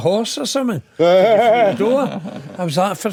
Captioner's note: laughing